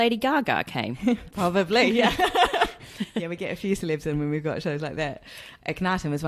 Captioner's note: laughs